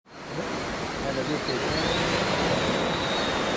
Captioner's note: drone humming